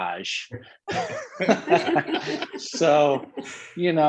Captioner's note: all laughing